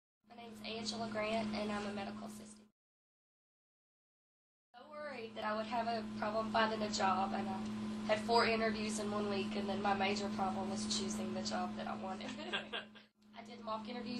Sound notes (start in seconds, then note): 12.2 laughing